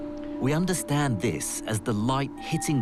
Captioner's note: voiceover